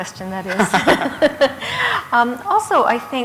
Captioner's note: laughter